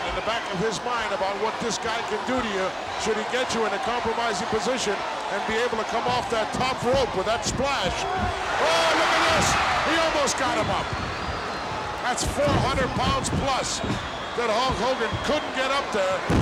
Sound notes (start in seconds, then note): 9.7 audience cheers